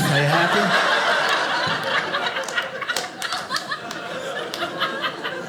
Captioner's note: audience laughing